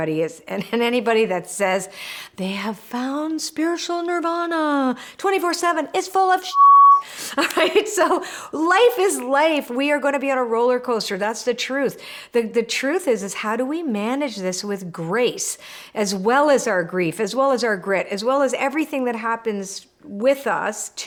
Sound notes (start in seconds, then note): 6.5 beeps